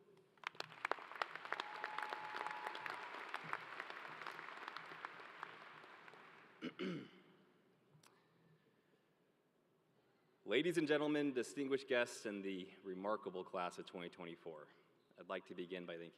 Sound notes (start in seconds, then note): 3.1 applause